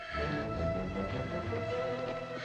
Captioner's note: panting